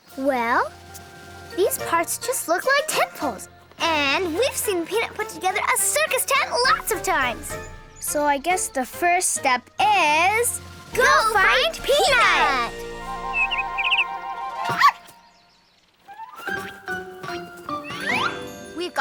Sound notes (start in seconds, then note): 12.6 bird chirps; 13.5 playful music; 14.7 dog barks; 16.0 playful music